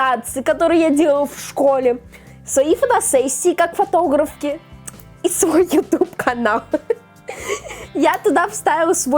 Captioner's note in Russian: смех